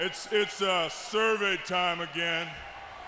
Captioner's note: crowd cheering